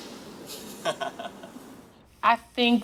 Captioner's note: laughing